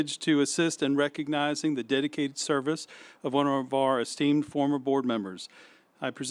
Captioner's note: none